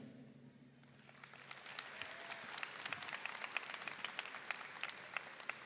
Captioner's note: audience applauding